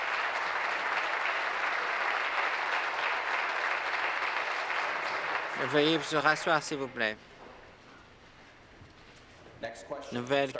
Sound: applause

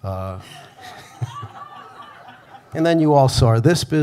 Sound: audience laughing

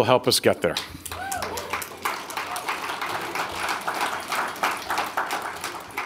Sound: audience applauding

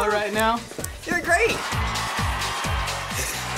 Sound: crowd cheers

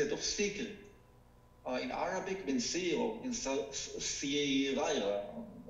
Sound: speaking foreign language

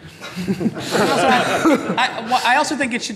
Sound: laughing

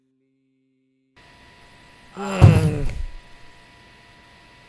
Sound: groans

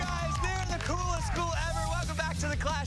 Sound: cheers and applause

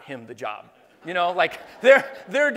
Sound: laughing

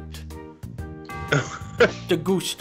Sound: laughter

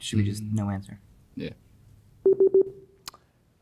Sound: buzzer pulses

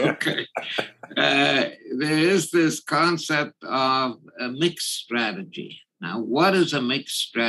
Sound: laugh

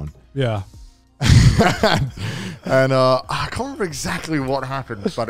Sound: chuckles

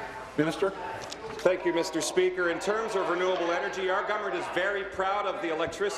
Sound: applause

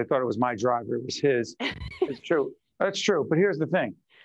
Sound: laughing

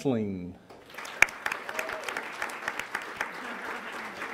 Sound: applause

